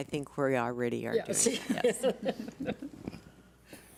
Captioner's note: laughs